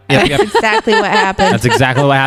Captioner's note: laughs